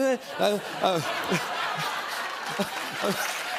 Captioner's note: laughter